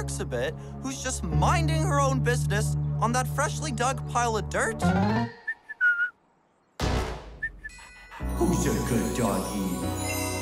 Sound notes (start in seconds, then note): 5.4 whistles